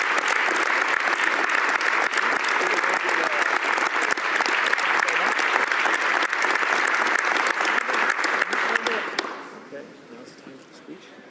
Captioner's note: some applause